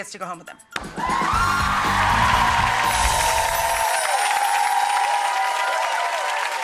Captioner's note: audience cheering and applauding